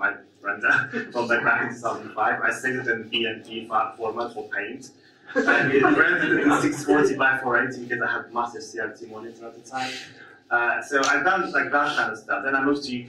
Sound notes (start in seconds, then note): 5.3 audience laughs